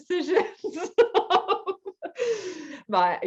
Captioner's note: laughs